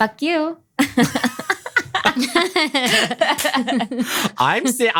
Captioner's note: laugh